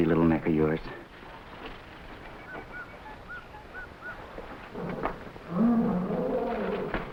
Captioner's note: animals chattering; gorillas groaning